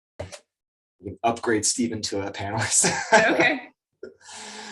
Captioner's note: laughs